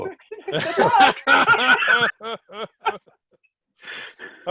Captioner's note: laughing